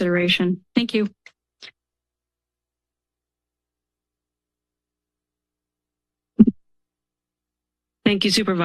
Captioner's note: silence